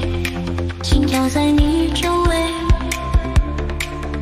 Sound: heartbeat surrounds you

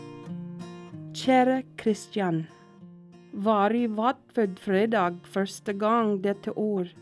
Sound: woman, speaking Norwegian

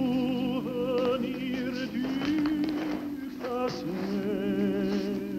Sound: fabric rustling

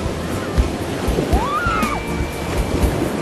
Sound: child Whooping

